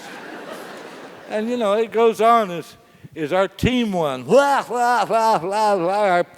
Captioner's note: laughs; laugh